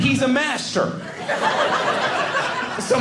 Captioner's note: audience laughing